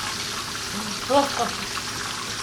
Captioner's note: laughs